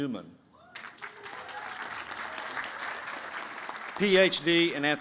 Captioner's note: applause